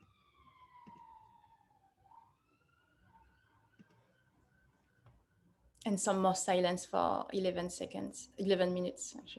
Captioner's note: sirens in background